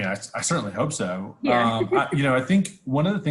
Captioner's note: laughs